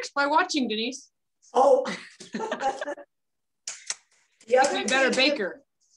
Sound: laughter

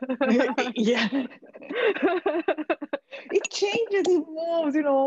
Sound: all laughing

